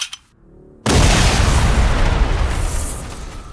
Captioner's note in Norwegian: eksplosjon